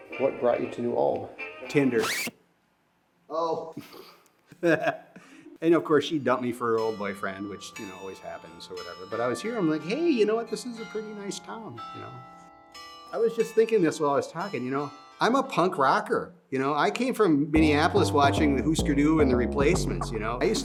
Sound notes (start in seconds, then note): 1.9 record screeches; 4.6 interviewer laughs; 12.1 bells ringing